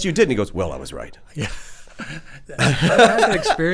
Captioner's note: chuckles